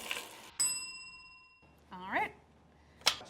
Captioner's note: bell ringing